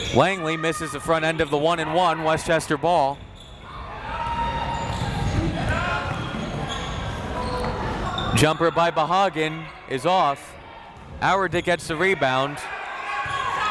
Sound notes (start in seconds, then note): 3.6 crowd members shouting; 13.5 crowd members shouting